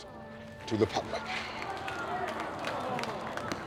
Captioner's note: crowd mutters dismay